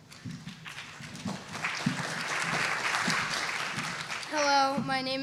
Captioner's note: applause